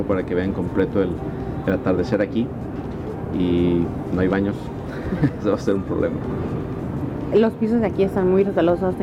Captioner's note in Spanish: risas